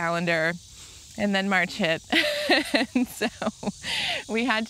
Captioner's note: laughs